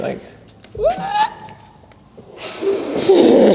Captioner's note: shouts